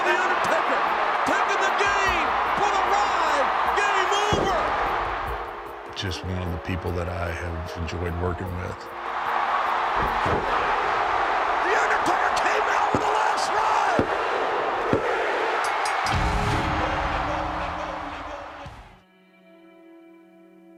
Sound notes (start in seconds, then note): 9.8 audience cheering; 15.9 bell rings